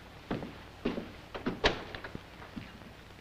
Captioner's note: footsteps; door opens